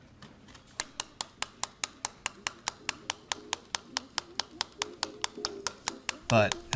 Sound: tapping

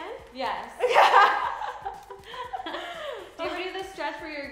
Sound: laughs

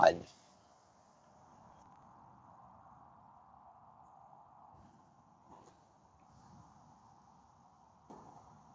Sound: silence

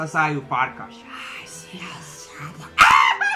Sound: hisses

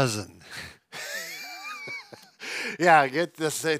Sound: both laugh

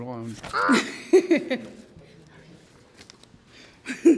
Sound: laughs

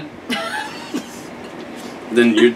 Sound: laughing

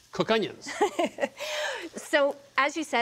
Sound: laughs

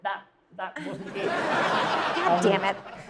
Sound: audience laughs

